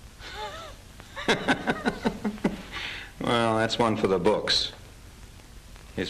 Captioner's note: laughing